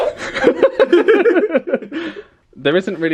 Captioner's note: both laugh